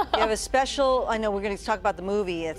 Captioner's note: laughter